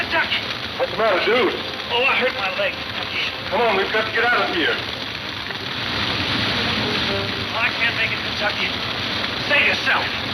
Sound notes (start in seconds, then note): 4.3 fire whooshing